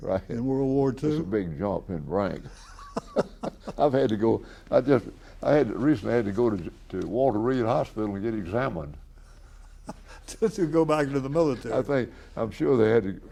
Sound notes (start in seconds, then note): 2.4 BOTH laugh; 9.2 laughs